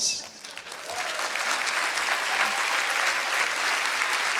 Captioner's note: applause